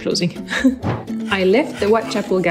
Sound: chuckles

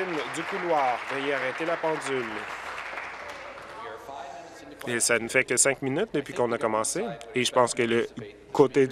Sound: applause

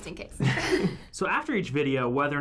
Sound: both chuckle

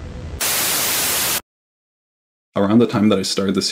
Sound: TV static buzzes

